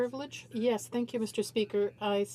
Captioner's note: speaking French